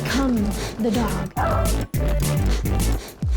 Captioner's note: barks